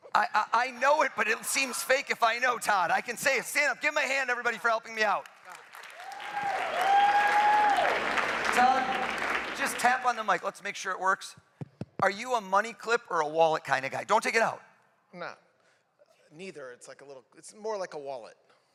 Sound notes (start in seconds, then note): 11.4 applause